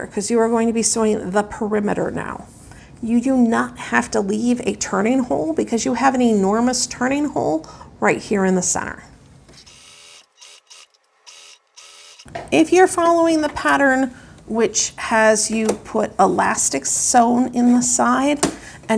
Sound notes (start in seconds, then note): 9.5 video fast-forward trilling